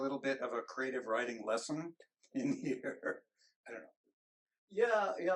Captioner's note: chuckles